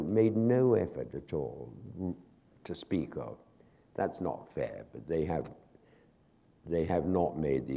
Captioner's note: none